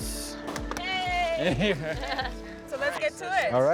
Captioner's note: claps and laughs